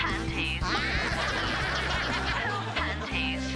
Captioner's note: Rabbids laughing; laughing continues